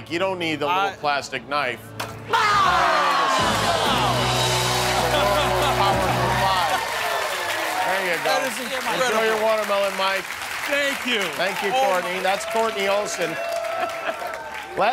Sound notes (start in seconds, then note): 2.7 cheers and applause